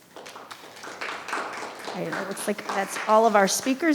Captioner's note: audience clap